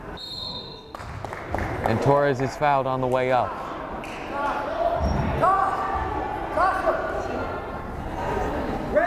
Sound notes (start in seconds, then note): 0.1 whistle blows; 0.9 crowd applauding; 5.7 fans shouting